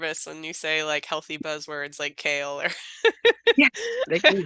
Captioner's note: laughing